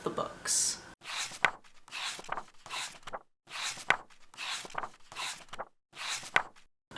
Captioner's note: pages turning